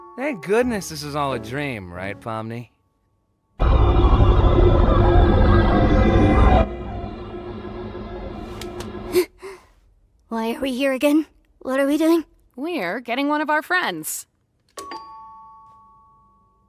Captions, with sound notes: -Thank goodness this is all a dream, right, Pomni? [unsettling musical sting] -[gasps] Why are we here again? What are we doing? -We're getting one of our friends. [doorbell rings]